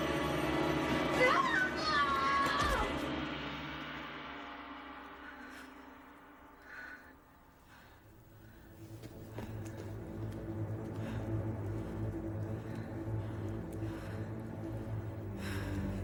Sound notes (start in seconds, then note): 1.3 Dr. Reed screams; 8.6 tense music continues